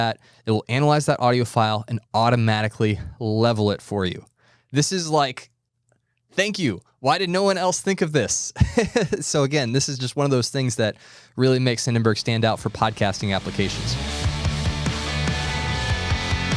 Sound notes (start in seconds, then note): 8.6 laughing; 12.6 rock music